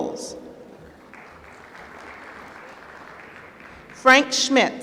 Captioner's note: applause